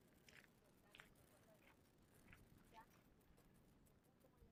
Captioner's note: gravel crunching